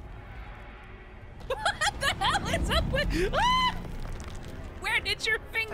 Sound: laughing

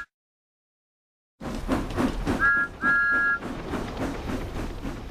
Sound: chuffing and engine whistles

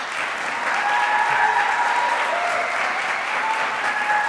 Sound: audience applauds

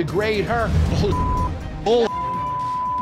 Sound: beep

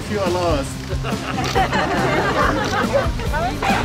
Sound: laughter

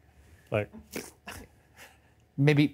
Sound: chuckles

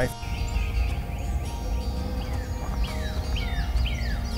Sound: birds chirping

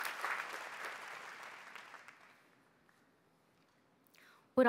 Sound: cheers & applause

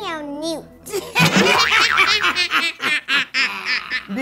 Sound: cackling

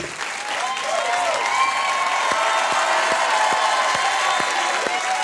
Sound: audience cheers

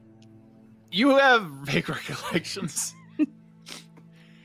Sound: laughs

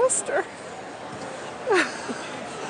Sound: laughs

